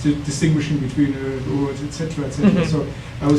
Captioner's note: speaking foreign language